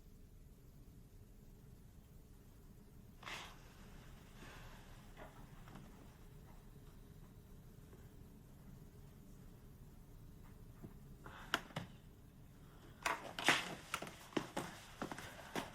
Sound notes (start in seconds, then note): 3.3 Louise gasps; 13.0 fabric rustles